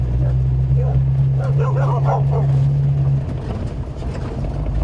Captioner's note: dogs barking